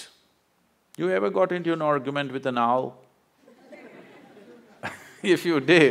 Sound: laughter

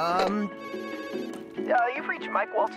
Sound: phone rings

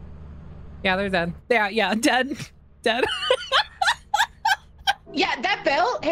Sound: laughs

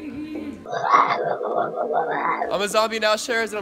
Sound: growls

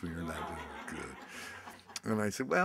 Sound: audience laughs

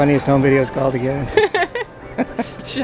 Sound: both laughing

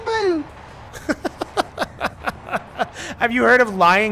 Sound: laughter

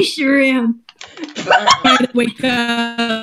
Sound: loud laughter; glitching

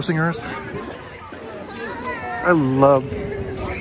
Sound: crowd yelling

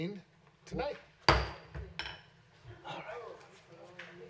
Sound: gavel

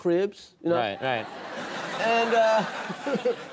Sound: audience laughing

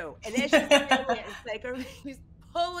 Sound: laughs

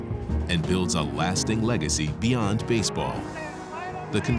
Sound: voiceover

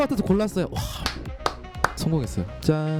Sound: clap clap clap

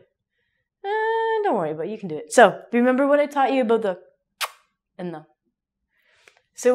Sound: kiss

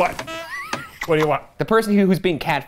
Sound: laughing

